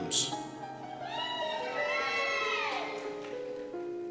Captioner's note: cheers